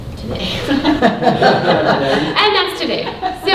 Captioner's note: laughing